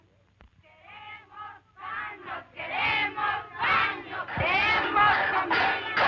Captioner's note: women chanting slogans in Spanish